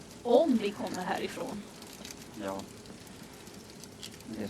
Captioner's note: none